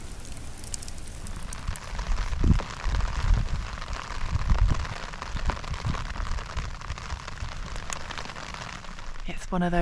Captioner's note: rain